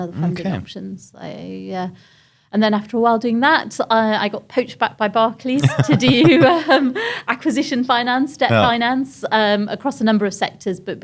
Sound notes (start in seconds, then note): 5.6 laughs